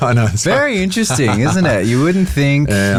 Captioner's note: laughs